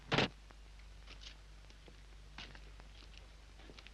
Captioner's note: door closes